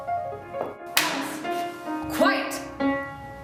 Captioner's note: smack